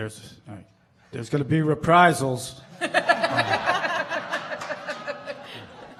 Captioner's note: laughing